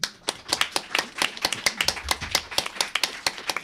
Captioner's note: applause